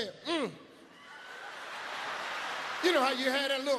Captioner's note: audience laughs